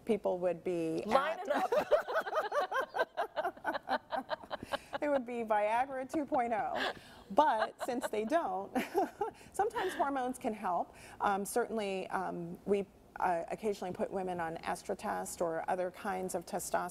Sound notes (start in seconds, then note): 11.2 laughter